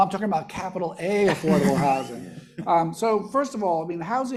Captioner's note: panelists laughing